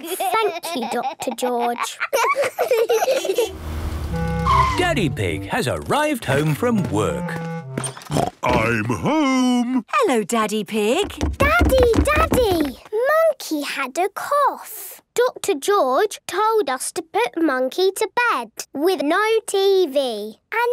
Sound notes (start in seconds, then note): 2.9 laughs; 7.9 snort